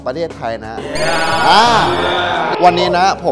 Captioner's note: cheering